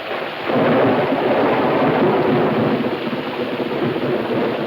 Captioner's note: thunder claps